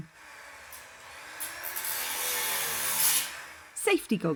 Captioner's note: loud buss saw